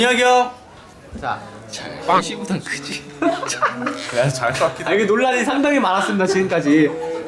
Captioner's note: sigh